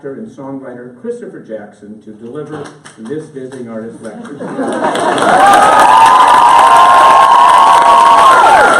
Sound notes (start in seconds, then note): 4.5 applause